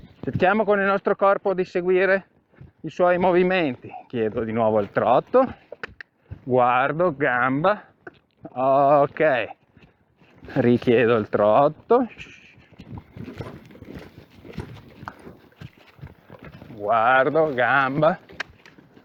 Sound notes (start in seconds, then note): 5.7 cluck; 18.2 cluck